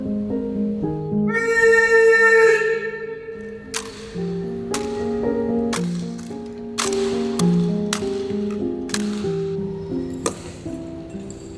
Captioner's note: soft music; screaming